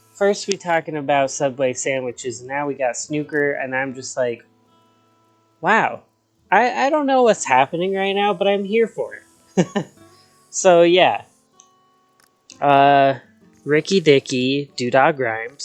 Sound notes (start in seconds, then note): 9.5 laughs